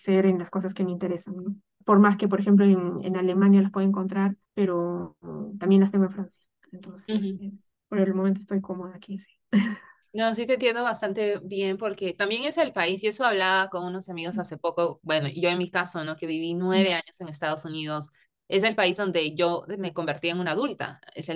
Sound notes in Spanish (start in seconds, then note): 9.5 risas